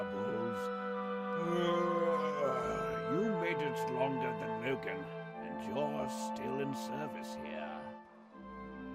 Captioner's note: yawns